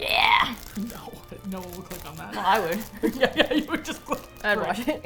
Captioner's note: laughing